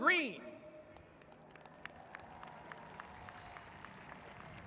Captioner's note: applauding